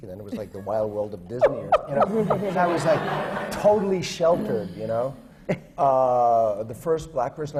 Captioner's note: laughter